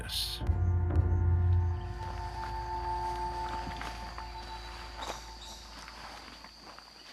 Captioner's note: birds chirping